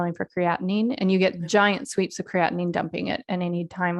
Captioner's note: none